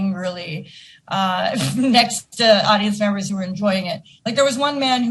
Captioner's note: laughing